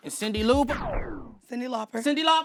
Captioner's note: record stopping